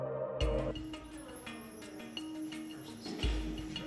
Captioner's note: background chatter